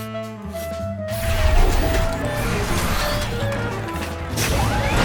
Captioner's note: robots whir